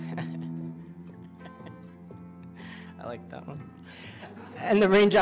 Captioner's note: chuckles